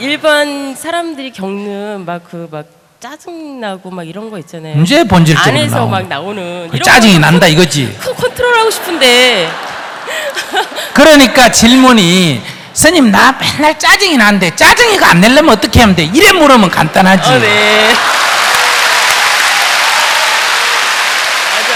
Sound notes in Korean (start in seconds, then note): 9.9 청중 웃음; 17.5 웃음, 박수